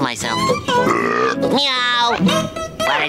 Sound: belching

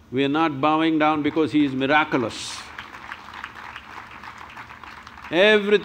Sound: applause

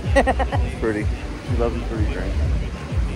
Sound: laughing

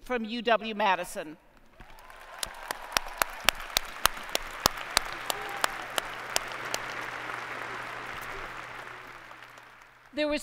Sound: applause

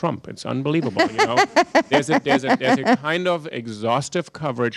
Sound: laughter

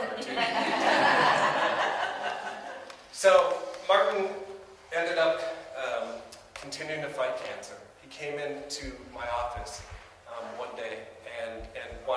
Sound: audience: laughter

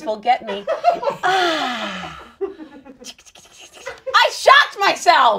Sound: sighs pleasurably

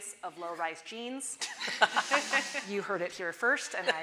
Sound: audience laughing

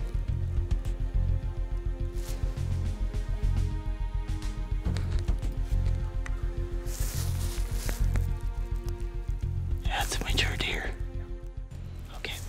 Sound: whispering

